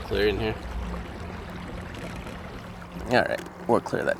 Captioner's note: water lapping gently